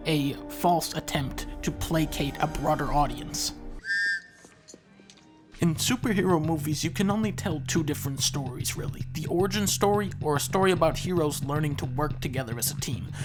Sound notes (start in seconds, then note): 3.8 whistle sound